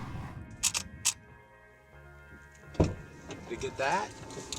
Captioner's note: camera clicks